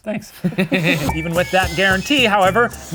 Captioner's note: chuckles